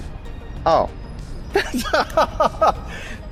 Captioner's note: laughs